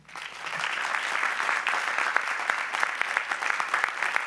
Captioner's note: applause